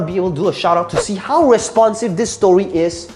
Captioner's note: air whooshing